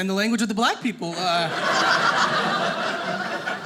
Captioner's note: audience laughing